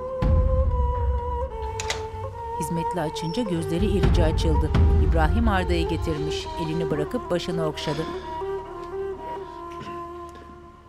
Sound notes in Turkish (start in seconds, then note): 1.6 Kapı açılma sesi; 6.1 Müzik - Duygusal